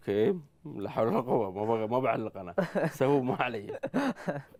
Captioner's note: laughter